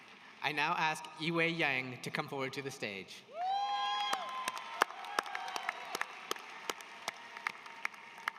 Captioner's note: applause